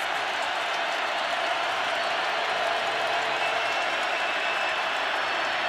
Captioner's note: crowd cheering